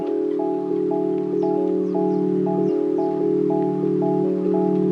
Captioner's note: birds twittering